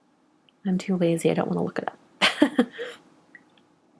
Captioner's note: chuckles